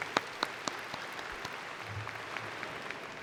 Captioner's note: applause